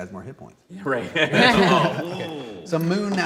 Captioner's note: laughing